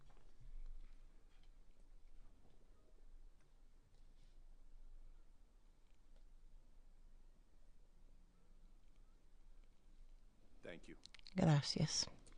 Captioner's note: moment of silence